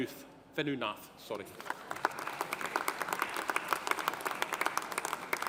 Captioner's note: audience applauding